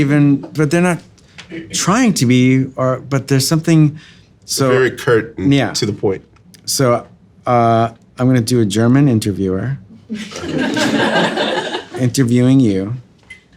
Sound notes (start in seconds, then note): 10.1 audience laughing